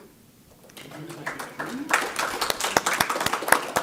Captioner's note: applause